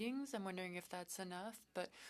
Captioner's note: speaking French